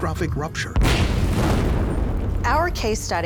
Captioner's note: sound of explosion